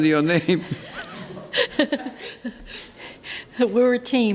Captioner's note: laughs